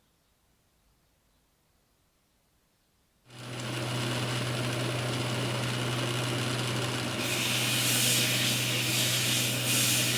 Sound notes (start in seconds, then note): 3.3 grinding sound